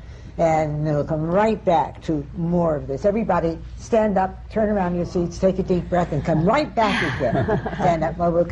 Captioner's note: laughter